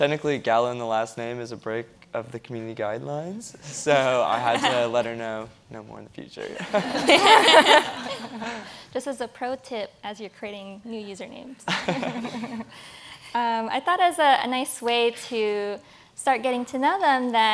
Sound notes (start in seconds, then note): 6.5 audience laughs